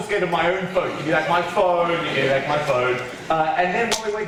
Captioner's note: teacher voice